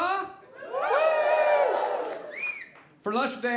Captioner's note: audience cheering